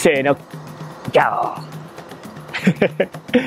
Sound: lion roar in Japanese

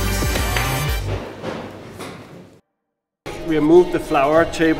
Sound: objects thudding

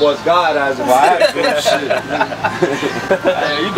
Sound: bunch of laughing

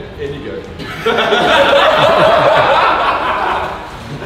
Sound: group laughs

